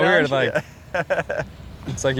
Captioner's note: laughs